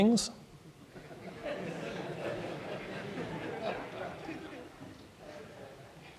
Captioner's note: laughter